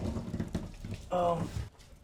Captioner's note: grunts